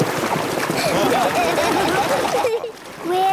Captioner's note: laughing